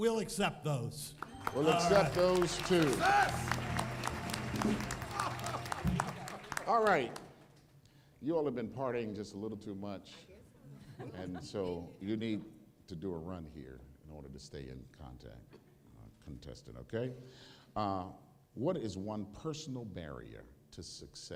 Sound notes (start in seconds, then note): 3.9 applause